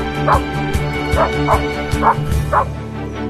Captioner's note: dog barking